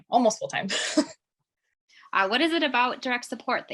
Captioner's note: chuckling